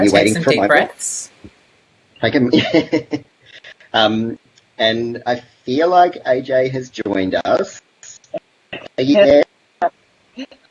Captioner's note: laughs